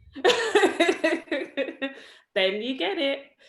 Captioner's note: laughs